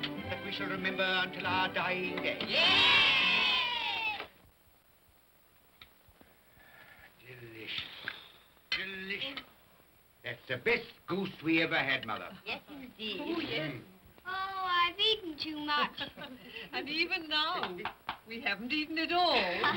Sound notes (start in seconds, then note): 2.4 children cheer